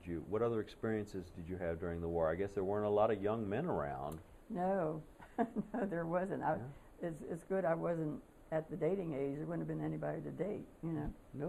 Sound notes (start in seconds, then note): 5.2 laughter